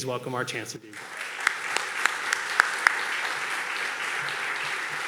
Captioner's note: audience clapping